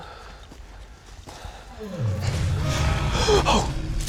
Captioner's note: gasps; animal growls